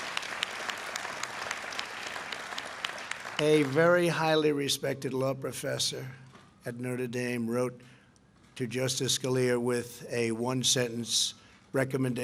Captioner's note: applause